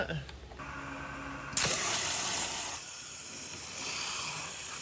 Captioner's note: tool whirs